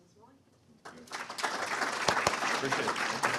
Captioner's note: hands clapping